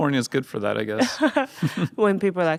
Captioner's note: Atsuko laughing